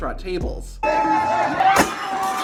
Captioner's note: crowd screaming; glass shattering